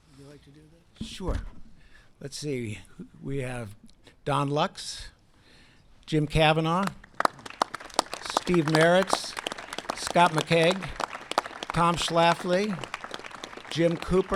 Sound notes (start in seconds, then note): 6.2 applause